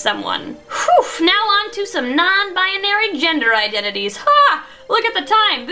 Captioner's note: relieved sigh